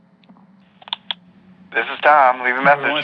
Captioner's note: answering machine clicks on